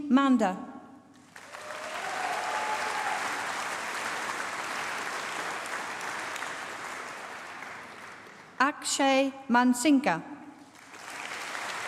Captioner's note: applause